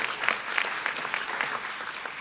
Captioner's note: applause